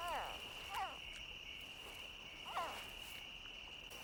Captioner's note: faint animal calls